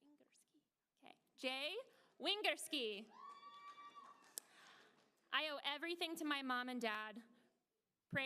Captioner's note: applause